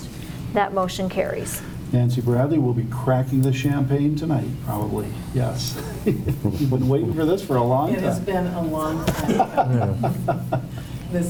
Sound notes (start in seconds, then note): 5.7 laughing